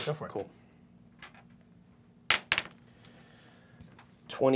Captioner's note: dice clacking